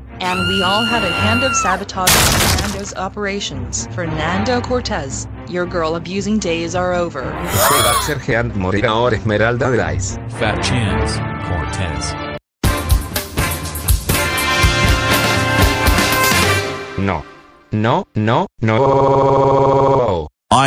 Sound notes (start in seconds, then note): 7.4 gasps